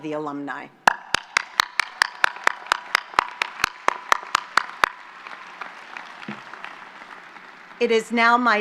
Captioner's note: applause